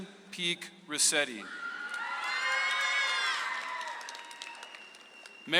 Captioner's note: audience applauds